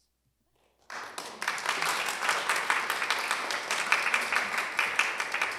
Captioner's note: applause